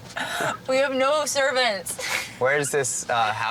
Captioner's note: laughing